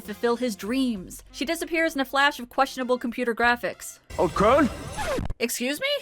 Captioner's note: zip noise